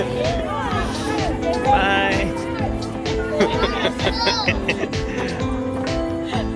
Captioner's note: laughter